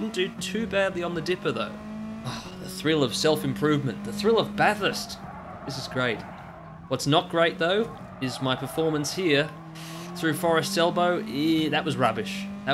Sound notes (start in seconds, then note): 9.7 inhales